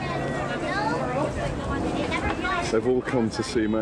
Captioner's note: crowd chattering